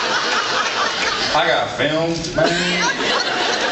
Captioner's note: drawls